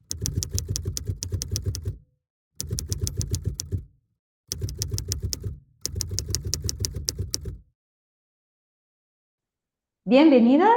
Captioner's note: typewriter sounds